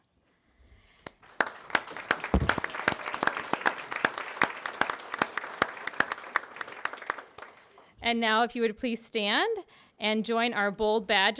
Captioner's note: applause